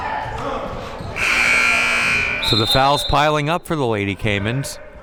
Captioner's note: buzzer blares